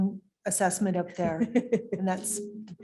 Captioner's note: laughs